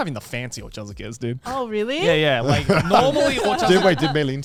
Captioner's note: laughs